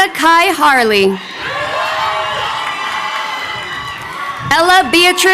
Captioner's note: crowd cheering